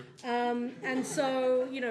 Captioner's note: laughter